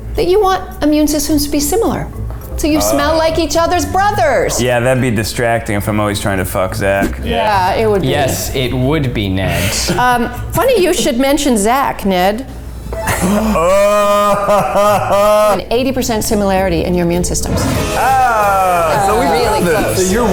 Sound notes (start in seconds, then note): 13.1 gasps; 15.8 laughing; 17.5 air whooshing